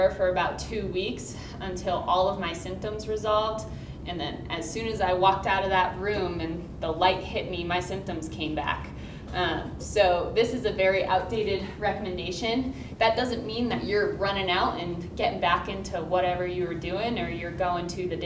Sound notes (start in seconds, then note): none